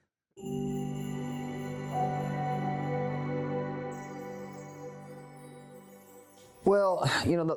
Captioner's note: chime Sound